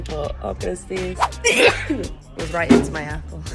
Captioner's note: sneezes